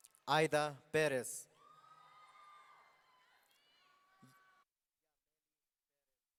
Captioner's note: audience cheering